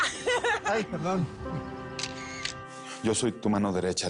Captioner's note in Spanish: Risas; Clic